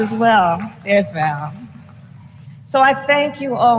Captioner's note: applause